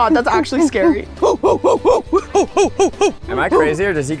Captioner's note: crew grunting like a monkeys